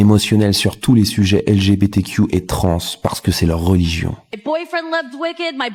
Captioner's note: french dialogue continues